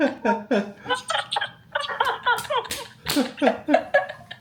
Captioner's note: wahahahaha